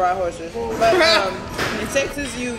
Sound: laughing

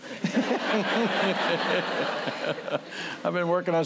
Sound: laughter

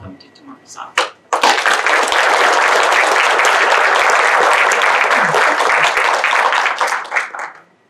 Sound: applause

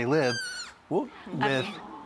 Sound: deer whines

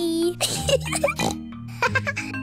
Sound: giggles and snorts; laughs

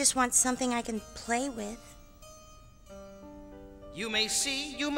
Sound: echoing

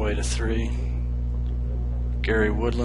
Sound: none

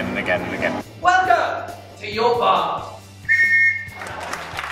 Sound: whistle blows

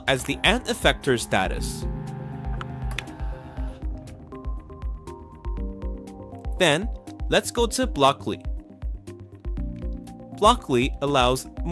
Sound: motor humming

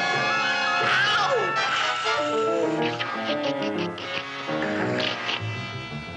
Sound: slurping

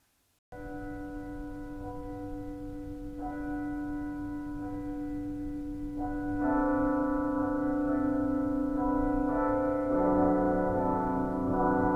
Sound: church Bells ringing

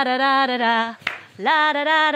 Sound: claps

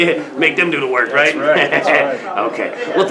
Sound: laughs

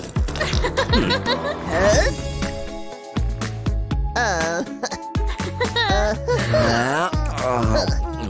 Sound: roaring

